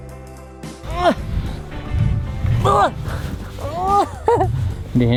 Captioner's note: grunting